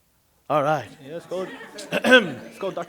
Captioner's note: chatter